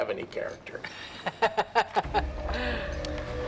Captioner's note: laughing; dramatic music